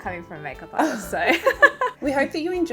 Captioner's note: laughing